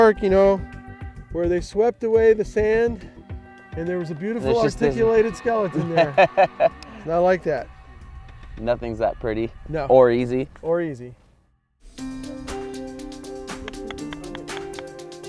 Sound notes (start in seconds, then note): 6.4 laughing; 12.0 upbeat music